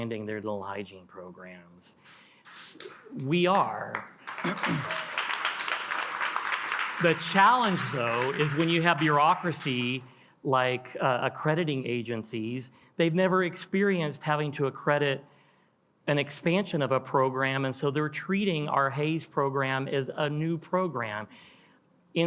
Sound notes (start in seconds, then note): 3.5 attendees applauding